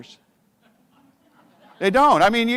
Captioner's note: audience laughs